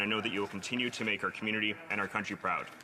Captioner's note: reading from list